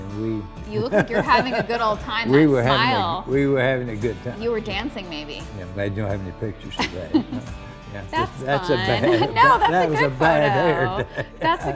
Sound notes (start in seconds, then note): 0.7 laughs; 6.8 laughs